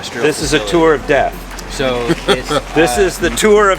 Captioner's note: laughs